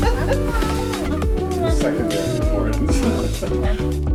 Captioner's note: laughs